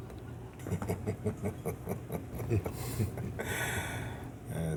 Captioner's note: Vargas laughs